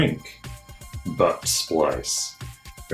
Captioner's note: American accent